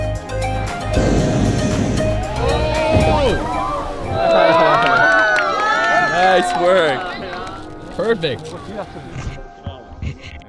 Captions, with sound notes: Ohh! (cheering) Nice work. Perfect.